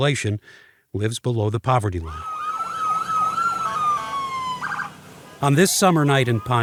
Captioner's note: sirens wailing